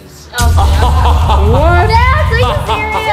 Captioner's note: laughs